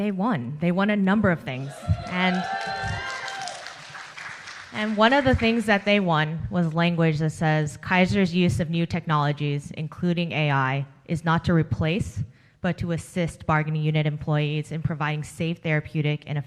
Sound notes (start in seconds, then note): 2.0 applause